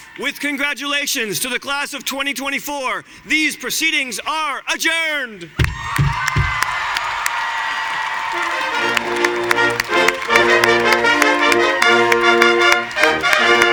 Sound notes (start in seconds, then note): 5.6 audience cheering and applauding; 8.3 festive music